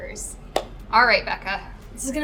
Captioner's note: hands clapping